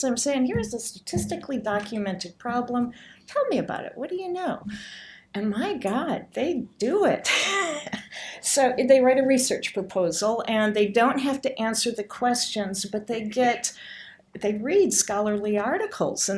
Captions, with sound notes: I'm saying here is a statistically documented problem, tell me about it. What do you know? And my God, they do it. (laughs) They write a research proposal, and they don't have to answer the questions, they read scholarly articles